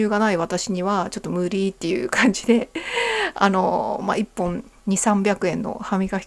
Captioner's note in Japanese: 息をのむ音